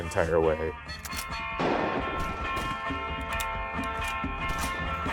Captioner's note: gunfire banging